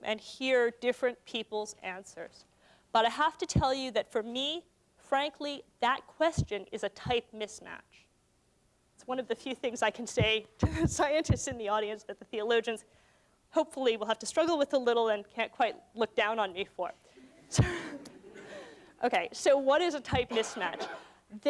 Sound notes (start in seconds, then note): 17.6 laughter